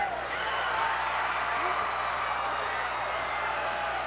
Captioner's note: cheers